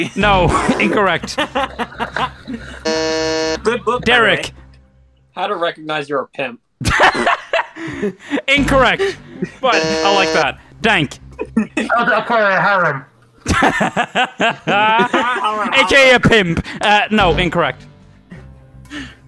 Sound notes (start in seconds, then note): 0.5 laughter; 2.8 buzzes; 6.8 laughter; 9.7 buzzes; 13.4 laughter